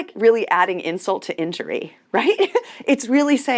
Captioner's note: chuckles